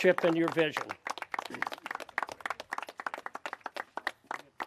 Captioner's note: clapping